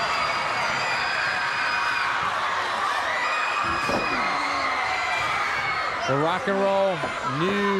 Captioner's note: crowd cheering